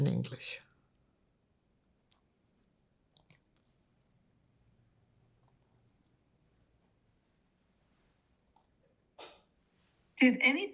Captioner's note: pause 9 seconds